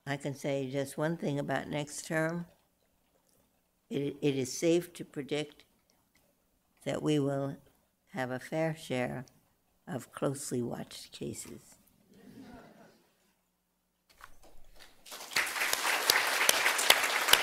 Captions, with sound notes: I can say just one thing about next term-- it is safe to predict that we will have a fair share of closely watched cases. [LAUGHTER] [APPLAUSE]